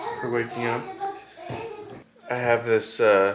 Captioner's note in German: murmelt